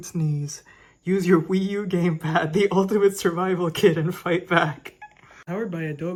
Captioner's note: laughing